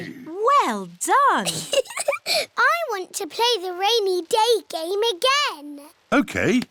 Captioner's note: laughs